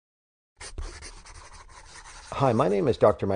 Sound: scribbling

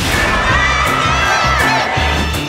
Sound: crowd cheering

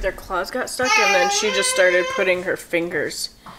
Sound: vocalizing

